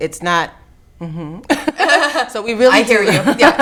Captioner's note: laughing